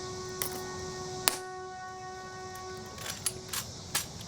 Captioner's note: heels click